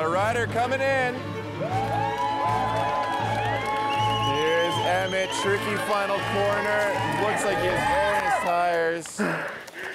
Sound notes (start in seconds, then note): 1.5 all cheering